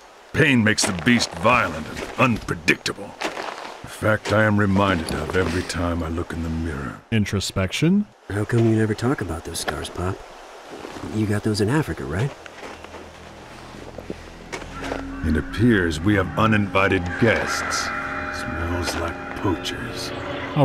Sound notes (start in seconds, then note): none